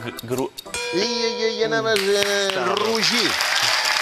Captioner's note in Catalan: gong